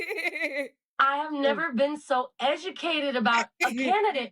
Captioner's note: laughing